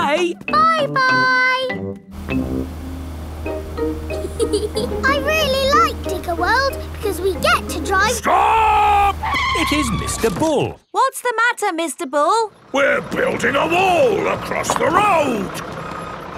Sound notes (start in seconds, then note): 4.1 george chuckling; 9.8 tires screeching